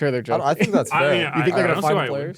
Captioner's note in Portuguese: risos